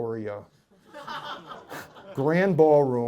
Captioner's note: laughter